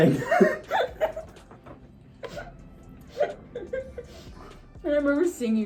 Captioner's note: laughs